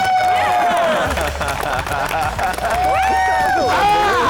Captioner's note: l lauaughghs s